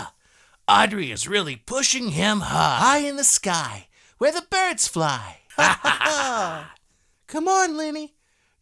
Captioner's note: laughter